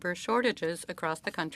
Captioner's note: speaking French